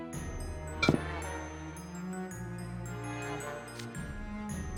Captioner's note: thunk…